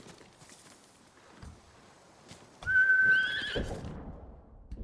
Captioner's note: whistling